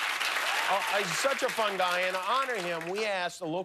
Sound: cheers and applause

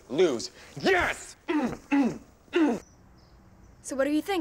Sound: Squibb grunting

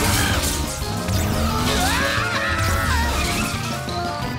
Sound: screaming

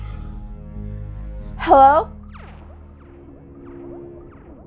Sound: voice from across the hall

